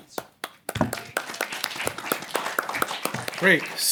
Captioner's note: applause